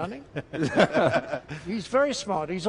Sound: laughs

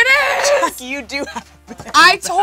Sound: laughs

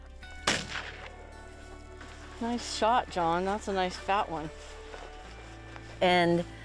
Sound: gun shot

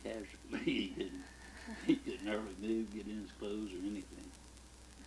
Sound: chuckles

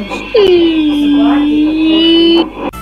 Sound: whimpers

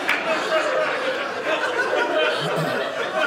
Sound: audience laughing

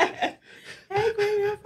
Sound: laughing

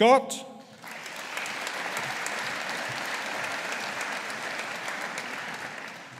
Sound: audience applauding

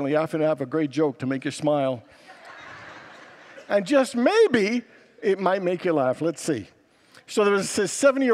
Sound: congregants laugh

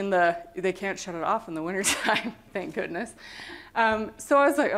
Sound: laughter

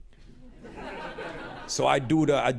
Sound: laughter

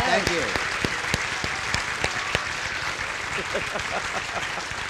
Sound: audience applauding

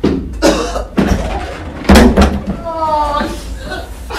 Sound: Daniel coughs; Daniel grunts

